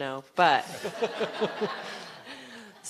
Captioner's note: laughter